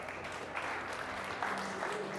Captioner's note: applause